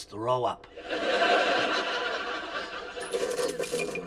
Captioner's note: laughter